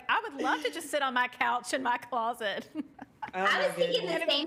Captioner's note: laughing